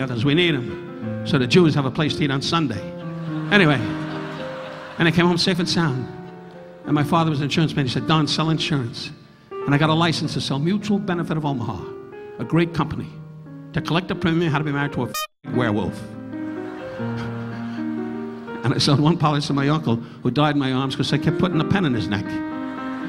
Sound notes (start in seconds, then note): 2.9 audience laughing; 16.4 audience laughing; 16.7 Don chuckling; 22.4 audience laughing